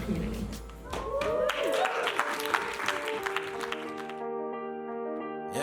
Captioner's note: cheers and applause